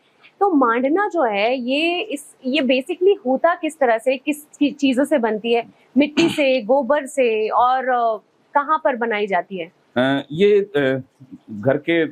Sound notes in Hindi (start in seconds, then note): 6.6 गला साफ़ करने की आवाज़